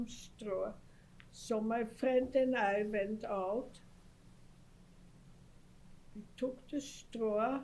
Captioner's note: pauses for 3 seconds